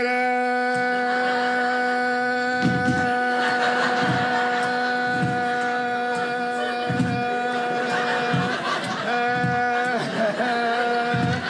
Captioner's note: audience laughing